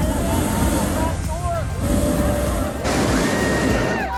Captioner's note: burner roars